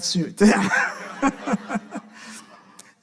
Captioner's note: audience laughing; laughing